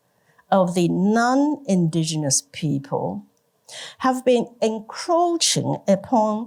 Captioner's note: none